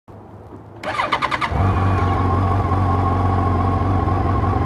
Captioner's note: motocycle starting